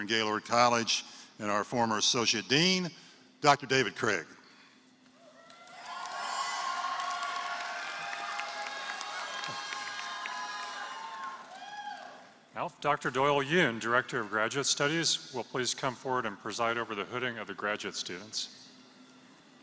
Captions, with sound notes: Gaylord College and our former associate dean, Dr. David Craig [APPLAUSE]. Dr. Doyle Yoon, Director of Graduate Studies, will you please come forward and preside over the hooding of the graduate students.